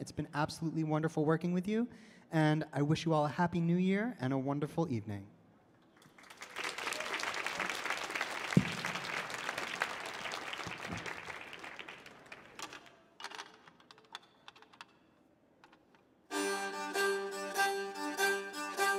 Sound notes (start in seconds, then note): 6.0 audience applauding; 16.3 lively music